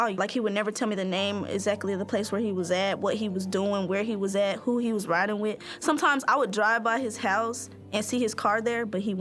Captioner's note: none